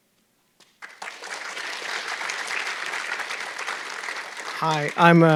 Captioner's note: audience clapping